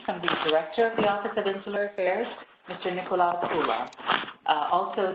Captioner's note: Arabic; Vietnamese